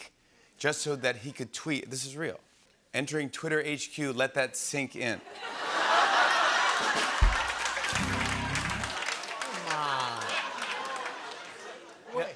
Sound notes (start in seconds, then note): 5.2 laughter; 7.2 rimshot